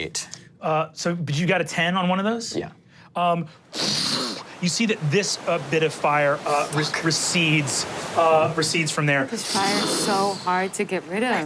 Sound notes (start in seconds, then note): 3.2 water flowing; 3.3 imitates fire whoosh